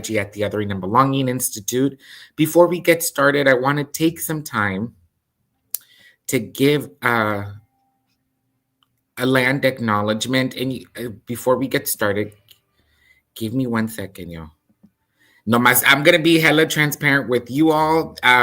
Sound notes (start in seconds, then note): 15.8 speaks in Spanish